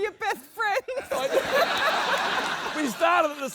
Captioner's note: laughter; laughs